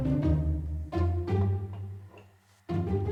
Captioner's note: gentle clink